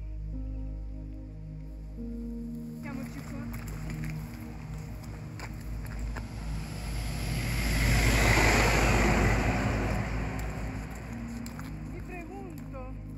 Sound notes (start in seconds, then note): 0.0 gentle music; 2.3 speaking foreign language